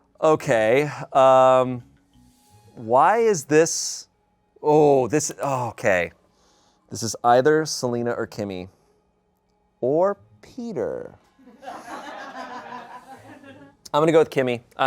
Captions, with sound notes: Okay, why is this... Oh, this, okay. This is either Selina or Kimmy or Peter. (audience laughing) I'm gonna go with Kimmy.